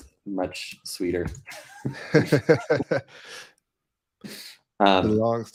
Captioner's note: both Laughing